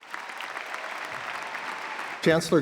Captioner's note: audience applauds